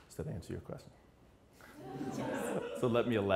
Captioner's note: laughing